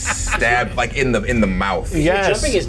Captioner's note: chuckles